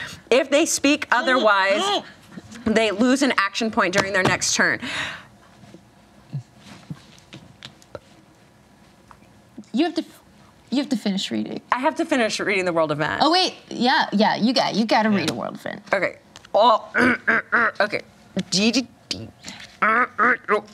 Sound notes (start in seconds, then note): 16.7 grunts